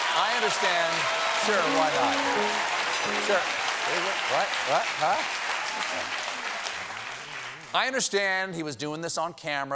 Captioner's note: applause